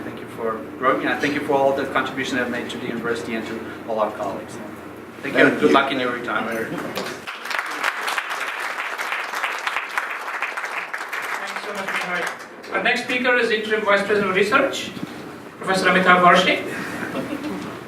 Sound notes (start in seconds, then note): 6.8 clapping